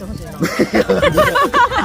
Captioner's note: chuckled